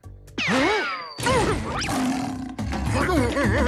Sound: roaring

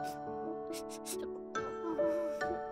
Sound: tearing up

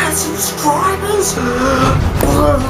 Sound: deep breath

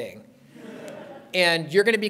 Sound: laughter

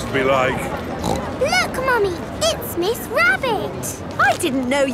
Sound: snorts

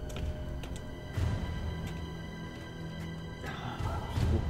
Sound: feet pattering; murmuring

